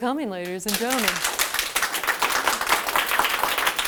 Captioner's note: applause